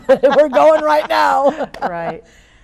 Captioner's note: laughing